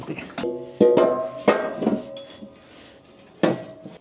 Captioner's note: parts clanking